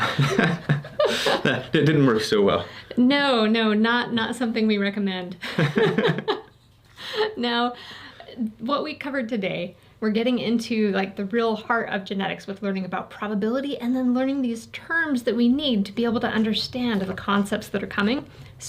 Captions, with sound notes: (laughing) That didn't work so well. - No, no. Not something we recommend. (laughing) Now, what we covered today, we're getting into like the real heart of genetics with learning about probability, and then learning these terms that we need to be able to understand the concepts that are coming.